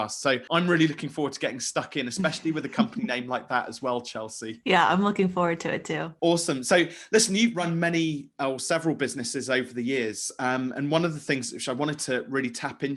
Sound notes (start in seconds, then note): 2.2 laughing